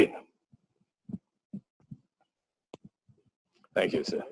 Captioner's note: pause